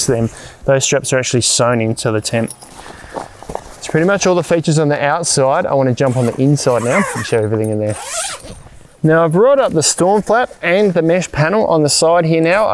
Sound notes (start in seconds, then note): 7.8 zip opening